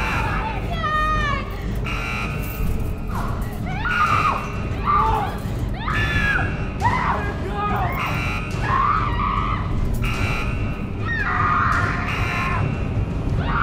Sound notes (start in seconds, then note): 5.7 woman screaming; 8.7 woman screaming; 12.0 alarm blaring